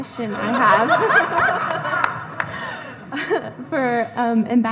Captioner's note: all laughing